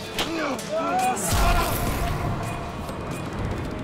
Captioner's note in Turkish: İnleme sesi